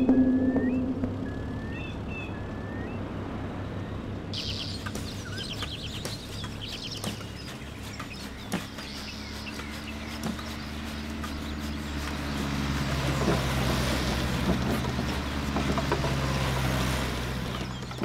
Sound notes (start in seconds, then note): 0.9 birds Sound; 10.1 wood Cutting sound